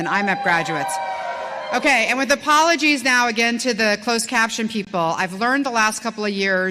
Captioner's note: cheering